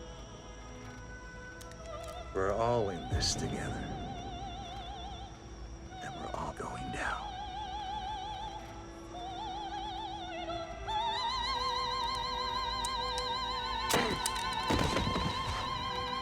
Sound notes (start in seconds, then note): none